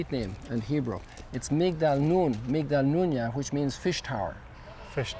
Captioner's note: foreign language